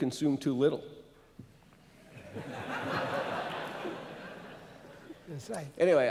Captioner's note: laughter